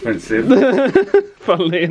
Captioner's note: laughs